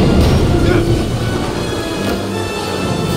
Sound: exertion

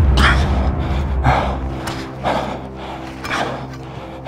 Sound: heavy breathing

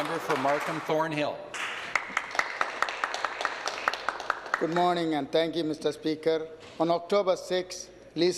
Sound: applause

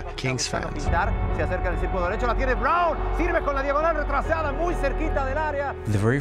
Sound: speaking Spanish

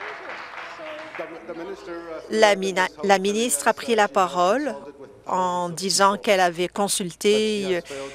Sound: applause

